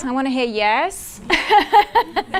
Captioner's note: laughs